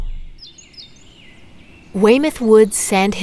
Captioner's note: birds chirping